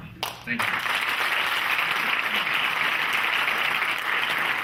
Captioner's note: clapping